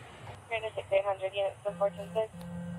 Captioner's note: radio chatter